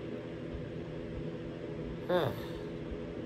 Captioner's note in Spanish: Caprice suspira